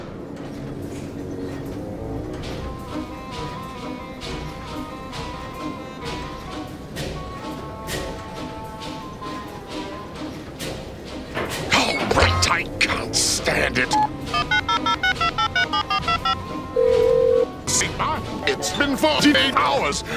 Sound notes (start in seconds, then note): 0.8 factory noises; 16.7 calling tone